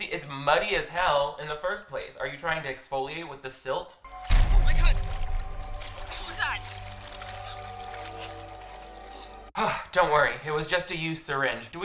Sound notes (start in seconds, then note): 7.2 water splashing